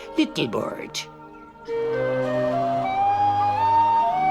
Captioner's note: blows the whistle